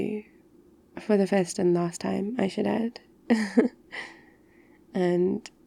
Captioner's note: laughs